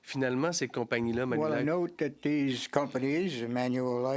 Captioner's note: speaking French